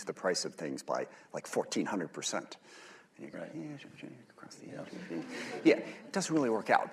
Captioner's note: laughter